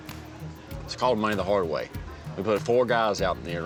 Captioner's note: none